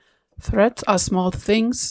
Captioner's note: soft, narrating